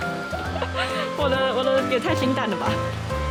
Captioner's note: laughing